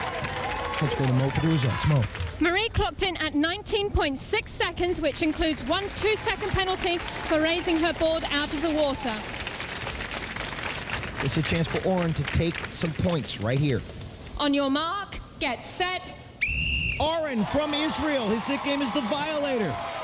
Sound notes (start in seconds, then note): 16.4 whistle blows